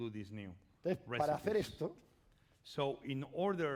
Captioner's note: speaking spanish